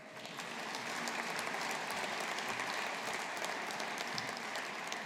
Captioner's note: audience applauding